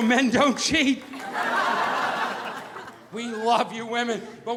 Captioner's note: audience laughing